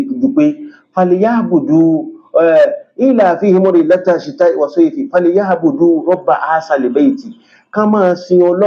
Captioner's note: reciting the arabic